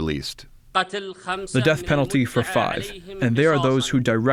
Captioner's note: through translator